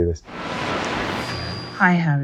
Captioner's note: radio buzzing